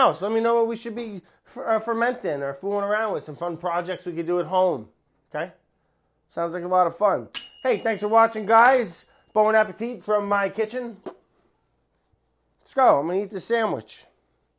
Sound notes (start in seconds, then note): none